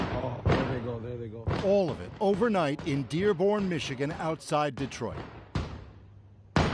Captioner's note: explosion